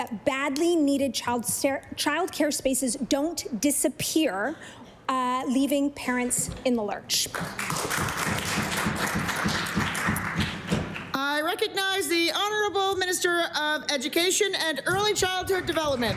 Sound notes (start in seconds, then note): 11.0 applause